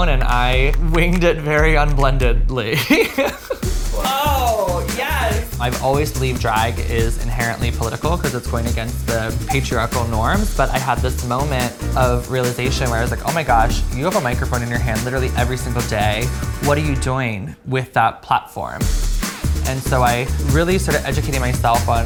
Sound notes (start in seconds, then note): 2.8 laughs